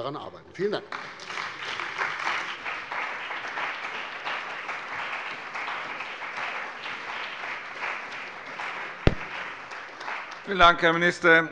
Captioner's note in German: Beifall bei der CDU und dem BÜNDNIS 90/DIE GRÜNEN